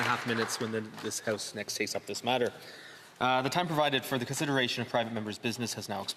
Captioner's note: some Applause